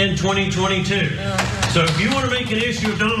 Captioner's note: applause